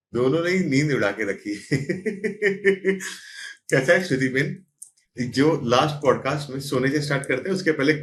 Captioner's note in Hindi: हंसी